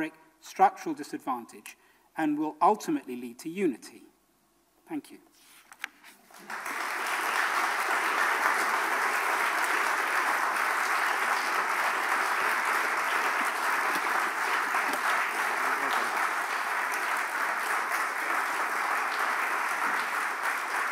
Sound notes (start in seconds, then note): 6.3 audience applauses